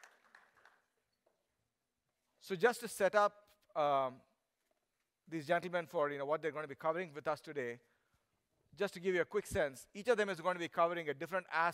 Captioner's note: applause